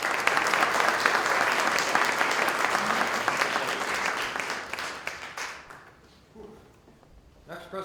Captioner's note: applause